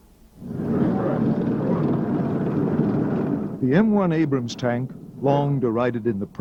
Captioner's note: tank rumbling